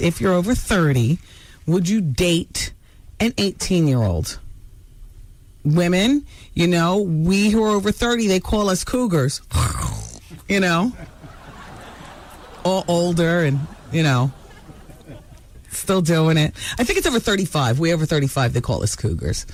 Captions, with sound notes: if you're over 30, would you date an 18-year-old? Women, we who are over 30, they call us cougars. (imitates cougar) You know? (audience laughing) All older and still doing it. I think it's over 35, we over 35, they call us cougars.